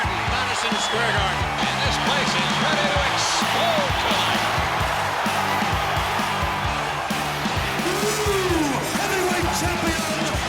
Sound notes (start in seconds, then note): 5.1 audience cheering